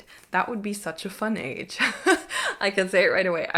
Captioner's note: chuckles